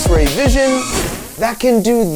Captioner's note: flame whooshing